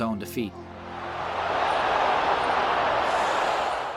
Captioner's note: crowd cheering